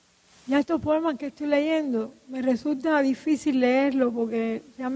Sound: speaking in Spanish

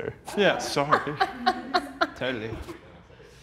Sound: laughs

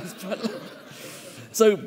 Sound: all chuckling

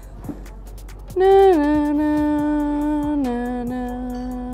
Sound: hums tune

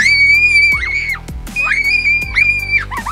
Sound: kids screaming

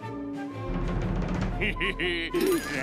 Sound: laughing

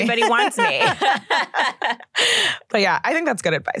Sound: laughs

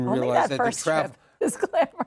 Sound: laughs

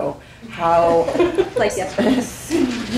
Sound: people chuckling

